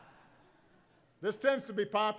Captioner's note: laughter